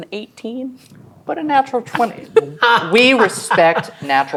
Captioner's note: laughing